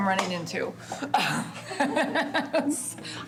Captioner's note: laughs